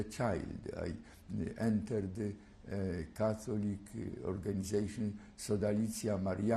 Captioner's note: non-english